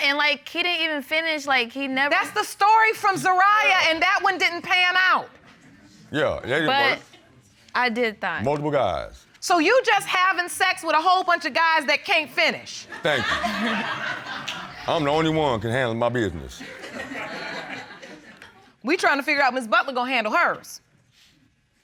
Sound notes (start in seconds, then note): 13.0 butler chuckles; 16.6 audience laughs